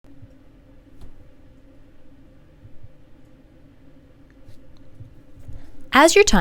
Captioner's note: silence